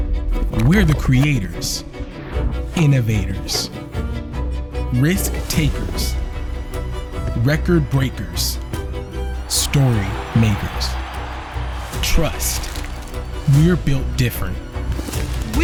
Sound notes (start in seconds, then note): 9.6 crowd roars